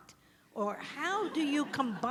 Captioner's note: audience laughs